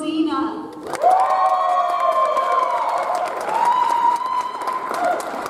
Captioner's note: audience applauds